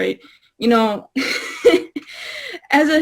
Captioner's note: laughs